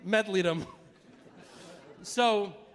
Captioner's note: audience laughing